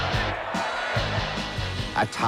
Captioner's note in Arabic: هتاف الجمهور